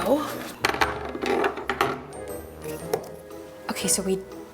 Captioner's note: plastic piece rattles